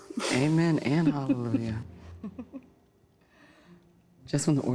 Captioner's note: chuckles